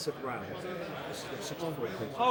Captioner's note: people Chattering